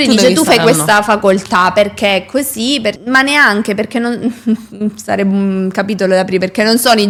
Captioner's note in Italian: risate